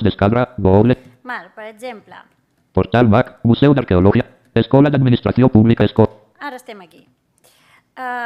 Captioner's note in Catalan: veu robòtica que llegeix la pantalla